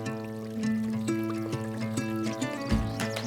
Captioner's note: stream gently rushing